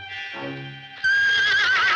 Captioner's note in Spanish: relincha